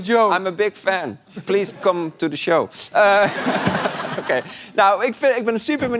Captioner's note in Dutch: gelach